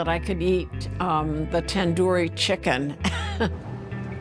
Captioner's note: laughs